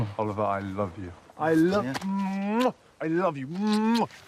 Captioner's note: kisses